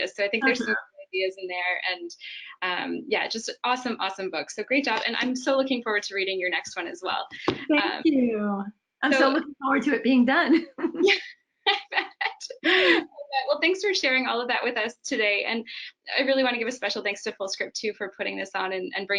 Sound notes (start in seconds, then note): 10.6 chuckles; 12.4 laughs